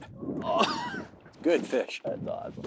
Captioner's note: laughs